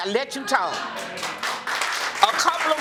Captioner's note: audience applauding